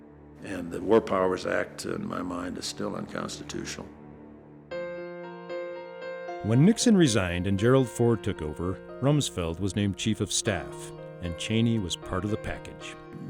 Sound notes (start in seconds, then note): 6.4 voiceover